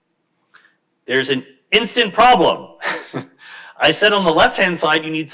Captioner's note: chuckles